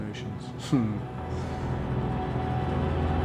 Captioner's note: chuckles